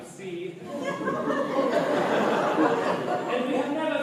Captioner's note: laughter